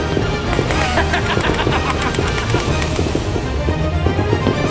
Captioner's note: laughter